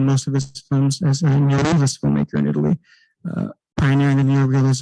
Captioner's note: distorted microphone